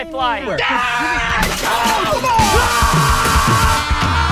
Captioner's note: screaming